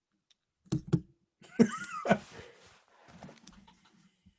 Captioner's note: laughter